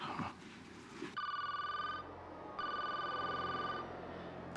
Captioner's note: chuckles; phone ringing